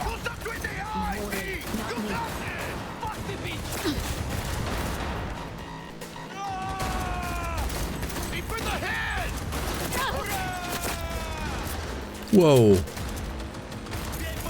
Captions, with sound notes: (speaking in foreign language) (gunfire) Whoa.